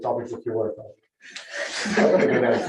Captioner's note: laughter